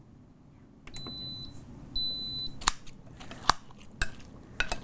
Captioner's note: beeping